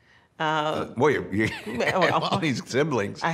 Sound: laughs

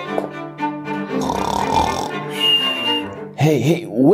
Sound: snoring

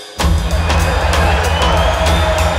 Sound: cheering

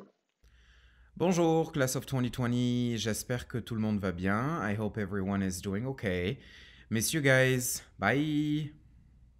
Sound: speaking french

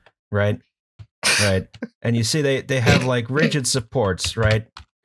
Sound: laughter

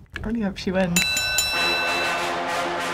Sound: bell rings; dramatic music

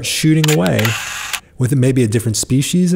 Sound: camera shutter

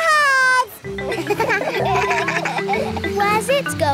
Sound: kids laugh

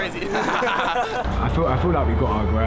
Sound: laughing

